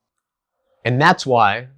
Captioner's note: beat